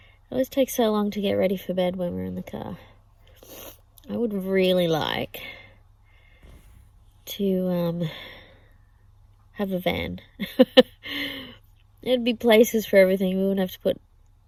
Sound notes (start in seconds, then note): 3.2 sniffs; 10.0 laughs